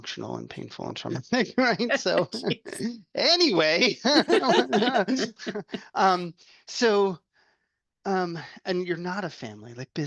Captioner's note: laughter